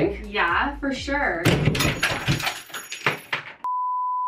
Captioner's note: screw falls; tone beeping